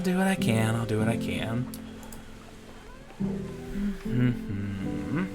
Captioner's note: humming